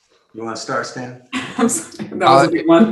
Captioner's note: laughs